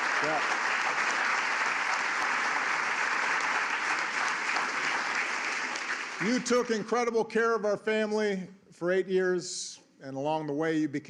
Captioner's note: applause